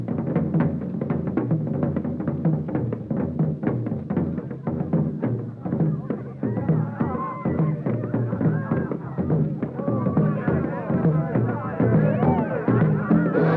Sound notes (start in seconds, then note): 6.2 crowd cheers